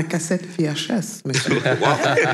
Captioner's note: laughs